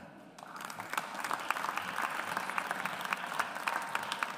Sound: audience applauds

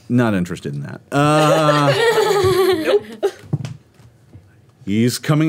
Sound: girls giggling

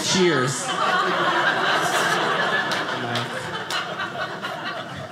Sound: audience laughing

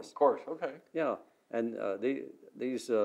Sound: none

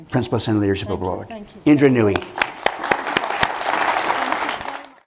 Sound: applause

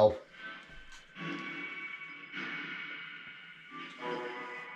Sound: radio noise reverberating

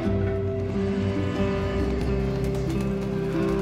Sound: bus engine roars

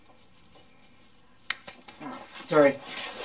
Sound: snapping sound

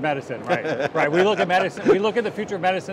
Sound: laughs

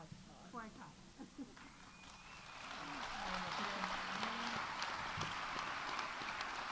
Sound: audience applauding; audience cheering

